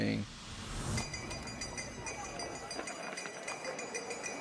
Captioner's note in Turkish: vuruşlu çan